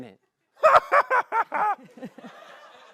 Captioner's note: maniacal laugh; laughter